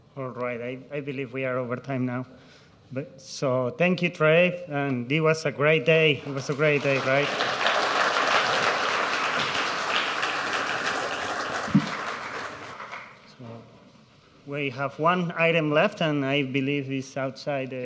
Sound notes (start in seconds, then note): 6.3 audience applauds